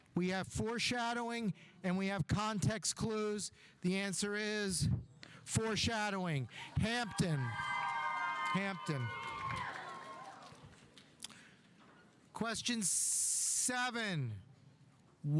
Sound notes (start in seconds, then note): 9.2 audience applauding; 9.2 audience cheering